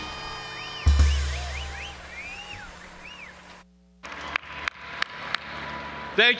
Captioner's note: audience applauding and cheering